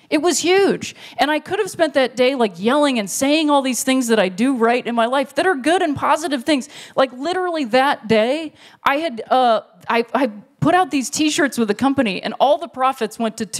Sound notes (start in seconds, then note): none